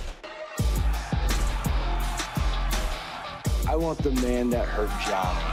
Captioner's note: crowd cheering